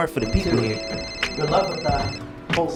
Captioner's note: phone rings